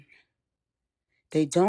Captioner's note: pause